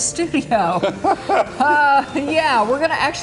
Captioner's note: laughing